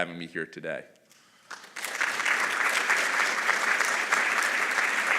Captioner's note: applause